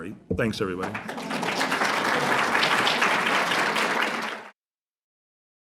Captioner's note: applause